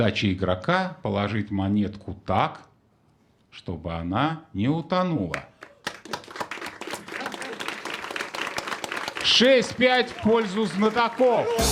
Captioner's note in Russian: аплодисменты